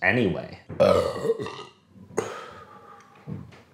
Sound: burps

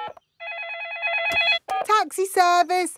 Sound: phone ringing; dialing

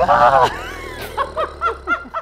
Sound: growling; all laughing

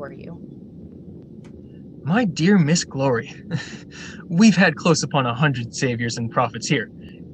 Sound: mockingly; chuckle

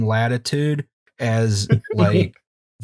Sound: laughter

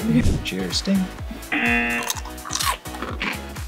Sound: buzzer

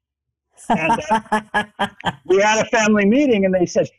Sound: laughs

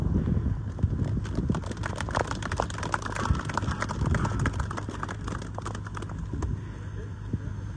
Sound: audience clapping

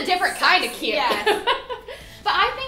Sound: laughter

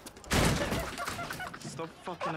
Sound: bike crashes; laughs

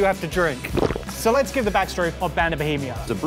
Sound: swallowing

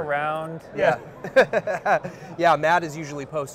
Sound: laughing

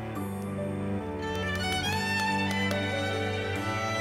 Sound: plastic tapping

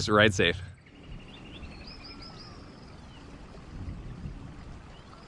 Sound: birds tweeting

